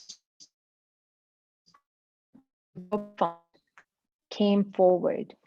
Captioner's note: audio drop